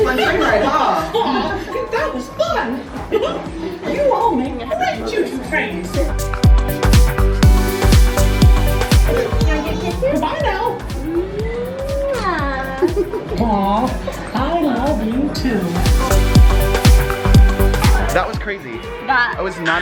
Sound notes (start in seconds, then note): 0.0 laughing; 6.5 upbeat music; 12.5 giggles; 16.0 upbeat music